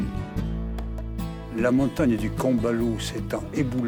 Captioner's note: speaks in french